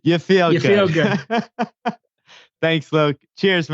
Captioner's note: laughs